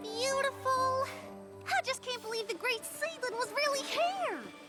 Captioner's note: gasp